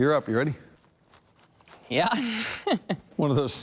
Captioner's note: laughs